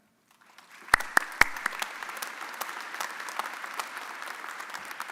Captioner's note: audience applauding